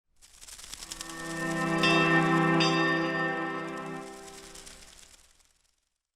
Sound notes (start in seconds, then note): 1.0 soft music; 1.1 bell clangs